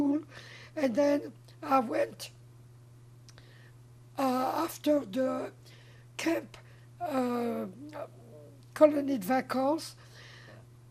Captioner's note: french